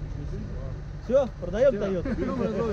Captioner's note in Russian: смеется